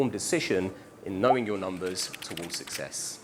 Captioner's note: keys clicking